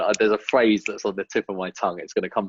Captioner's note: snapping